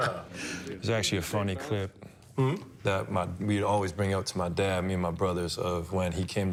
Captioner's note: laughter